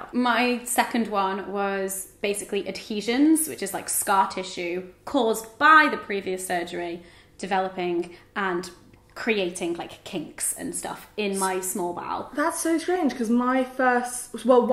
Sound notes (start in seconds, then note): none